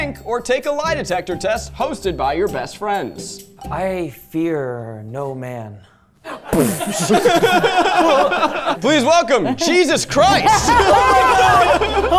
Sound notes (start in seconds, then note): 6.3 everyone laughing; 6.5 imitates explosion